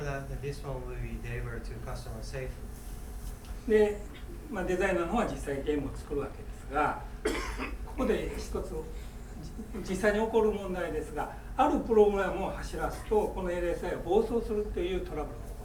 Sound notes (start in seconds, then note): 3.7 speaking in foreign language; 7.2 coughing